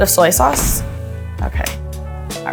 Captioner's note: instructions whooshing